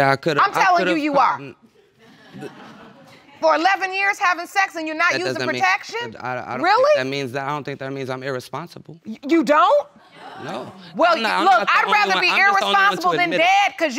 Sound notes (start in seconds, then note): 2.0 audience laughs